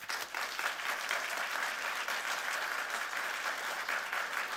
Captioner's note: audience applauds